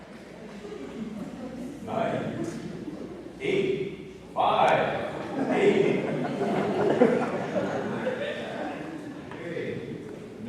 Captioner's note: laughter